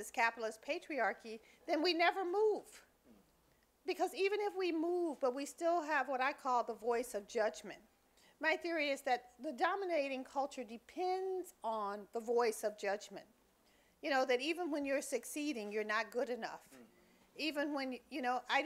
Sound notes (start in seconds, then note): none